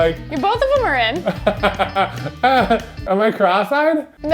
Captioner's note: laughing